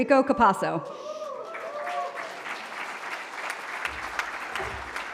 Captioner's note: applause